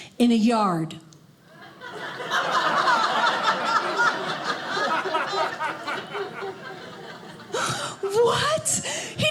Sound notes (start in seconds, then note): 1.5 audience laughing